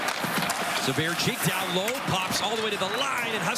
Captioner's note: cheering